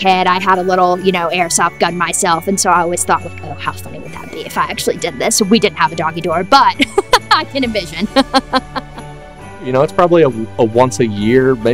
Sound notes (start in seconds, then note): 6.8 laughing